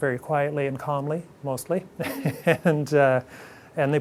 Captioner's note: chuckles softly